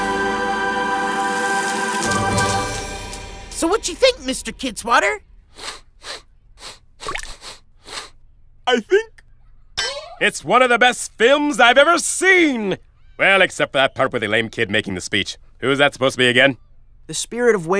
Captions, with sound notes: (REEL CLICKS AND ROLLS) SO... WHA'CHA THINK, MR. KIDSWATTER? (SNIFFLING) I THINK... IT'S ONE OF THE BEST FILMS I'VE EVER SEEN. WELL, EXCEPT FOR THAT PART WITH THE LAME KID MAKING THE SPEECH. WHO'S THAT SUPPOSED TO BE AGAIN? THE SPIRIT OF WAYSIDE, MR. K.